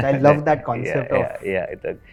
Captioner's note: laughs